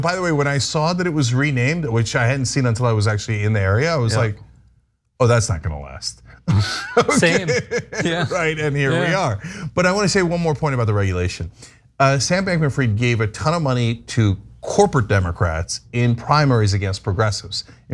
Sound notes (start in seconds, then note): 6.5 laugh